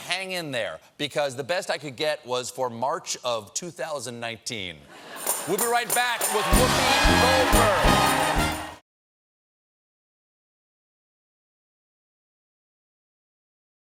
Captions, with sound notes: BEST I COULD GET WAS FOR MARCH, 2019. WE'LL BE RIGHT BACK WITH WHOOPI GOLDBERG. ( CHEERS AND APPLAUSE ) ( BAND PLAYING )